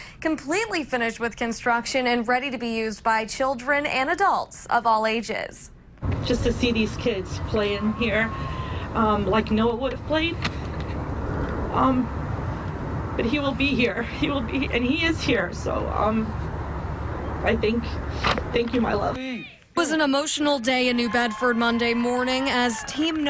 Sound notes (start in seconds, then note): 7.7 crying